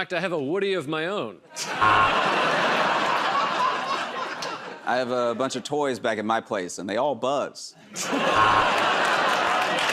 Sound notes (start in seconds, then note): 1.6 laughter and applause; 1.8 buzzer